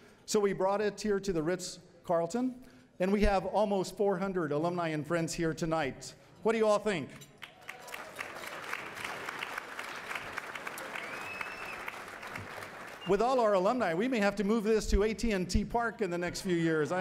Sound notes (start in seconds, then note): 7.3 applause